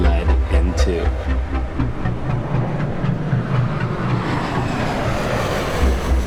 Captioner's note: plane booming